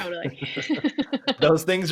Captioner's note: laughing